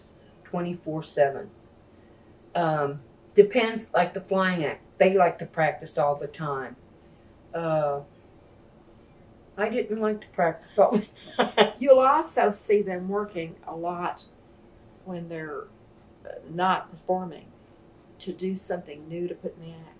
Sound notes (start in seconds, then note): 10.9 laughs